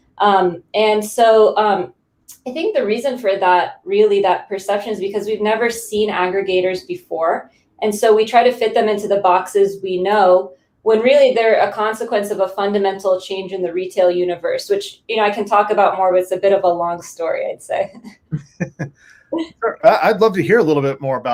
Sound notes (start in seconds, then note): 17.7 laughs